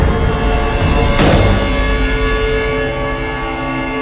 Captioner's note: gun bangs